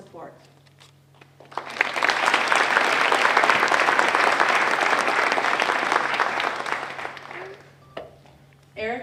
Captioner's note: applause